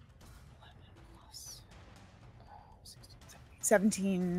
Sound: whispers

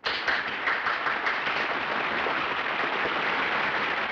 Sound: applause

